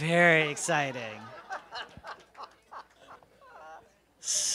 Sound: laughter

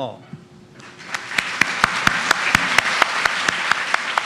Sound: applause

